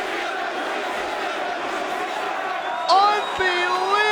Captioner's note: crowd chanting continues